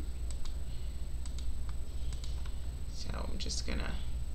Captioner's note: mouse clicking